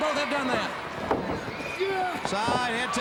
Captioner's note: crowd cheering